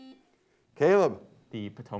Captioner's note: buzzer beeps